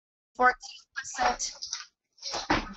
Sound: distorted audio

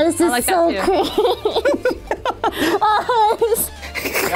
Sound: laughing

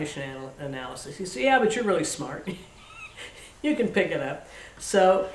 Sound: laughs

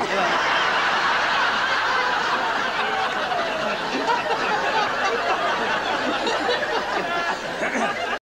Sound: much laughter from the audience & Des

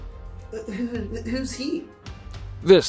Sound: brian stammers

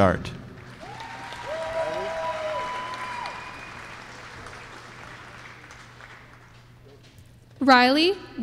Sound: applause

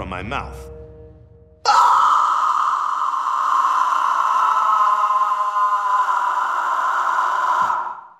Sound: screaming

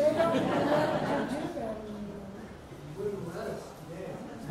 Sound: audience laughs

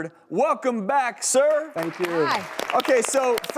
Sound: audience applauding

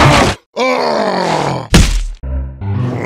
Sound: crashes; Peppino groans

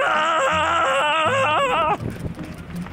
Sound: yells

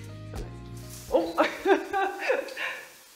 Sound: laughs

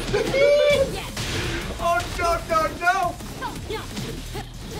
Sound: laugh

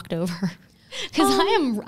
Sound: chuckles

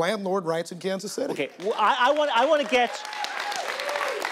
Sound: audience applauding

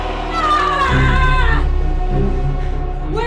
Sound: Sarah yelling

